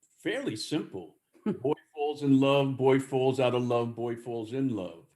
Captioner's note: laughs